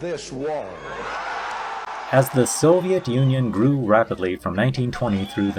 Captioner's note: applause